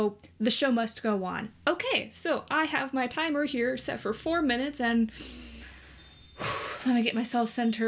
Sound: deep breath

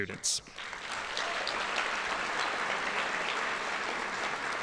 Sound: audience applauding

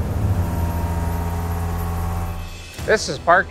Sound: mill buzzing

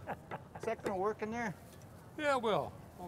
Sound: laughter

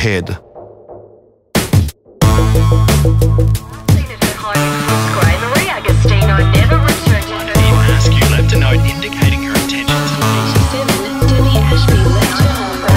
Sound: radio noise and chatter

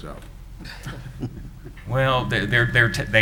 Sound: chuckling

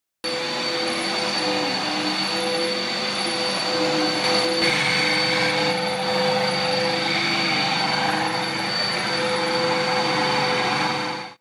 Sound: vacuuming sound

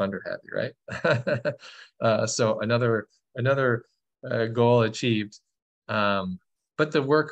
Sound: laughter

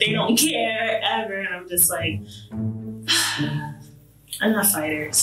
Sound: sighs

